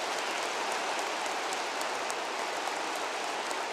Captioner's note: applause